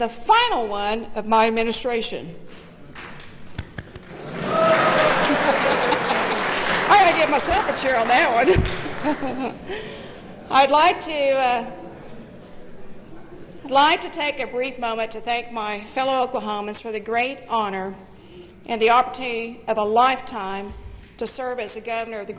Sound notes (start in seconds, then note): 10.1 cheers and applause